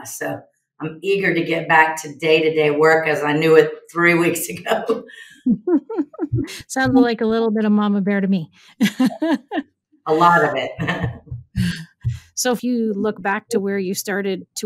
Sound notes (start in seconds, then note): 5.4 chuckles; 8.7 laughs; 10.1 chuckles